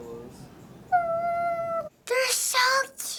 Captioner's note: cooing